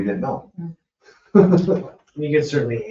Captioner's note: people chuckle